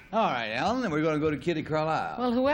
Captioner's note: buzz